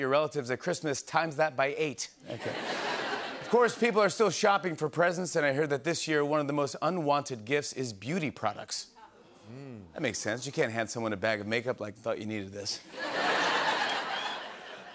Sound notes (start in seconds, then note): 2.2 laughter; 12.9 laughter